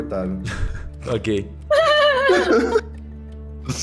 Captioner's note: giggles